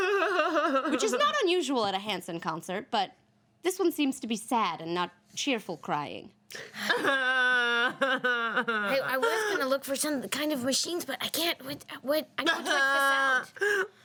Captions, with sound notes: (woman sobs) Which is not unusual at a Hansen concert, but this one seems to be sad, and not cheerful crying. (woman sobs) - I was gonna look for some kind of machines, but I can't. What's with the sound?